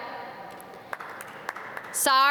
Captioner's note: audience clap